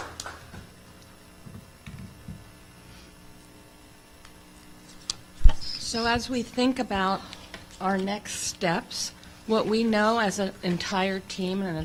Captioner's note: applause